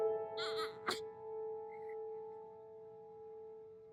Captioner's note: baby cooing